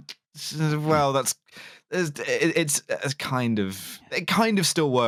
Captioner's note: stammers